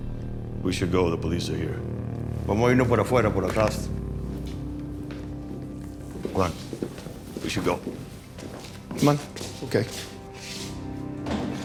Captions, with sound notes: We should go. The police are here. [SPEAKING SPANISH] Come on. We should go. Come on. OK.